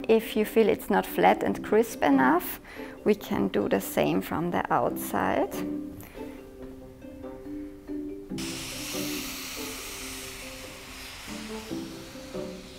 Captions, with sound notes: If you feel it's not flat and crisp enough, we can do the same from the outside. (iron hisses)